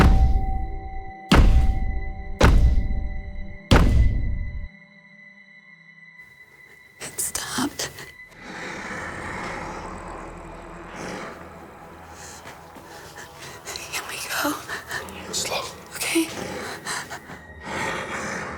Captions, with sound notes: - It stopped. (snarling) - Can we go? - Go slow. - Okay. (soft growling)